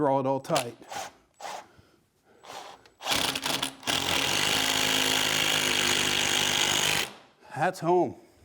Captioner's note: drilling